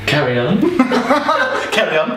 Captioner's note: laughing